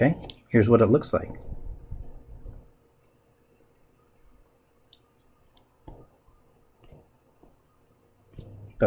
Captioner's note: writing Sounds